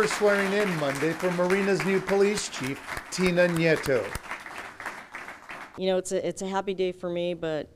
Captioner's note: applause